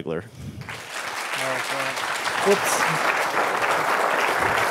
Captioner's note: applause